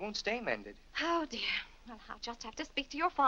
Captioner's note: sighs